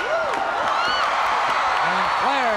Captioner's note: crowd cheers